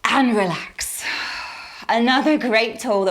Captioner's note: exhaling